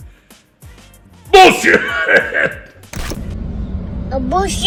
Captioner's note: cough